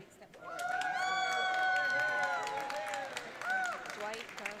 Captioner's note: audience cheering